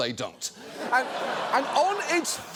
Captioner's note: audience laughs